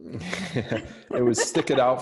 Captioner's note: laughing